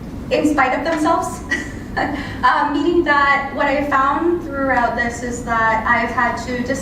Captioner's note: laugh